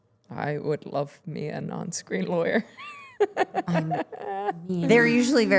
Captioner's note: laughing